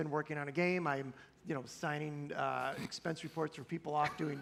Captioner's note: laughter